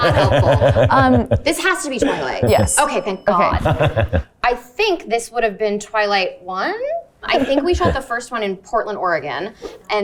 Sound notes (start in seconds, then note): 0.0 group laughing; 2.4 bell dings